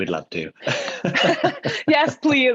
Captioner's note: laughing